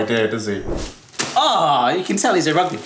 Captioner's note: screen wipe whooshes